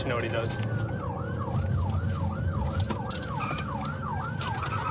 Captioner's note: siren wailing